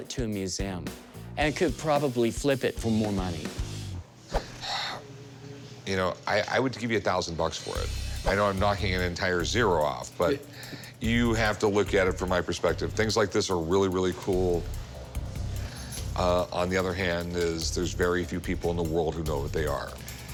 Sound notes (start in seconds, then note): 4.3 sighs